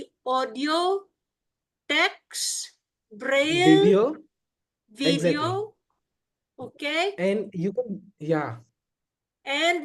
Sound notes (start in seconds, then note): 3.2 speakng